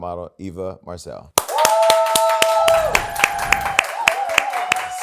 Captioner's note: cheering